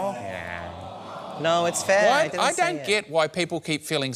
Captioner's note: audience groans